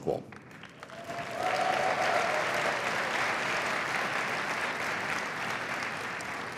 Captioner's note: cheering and applause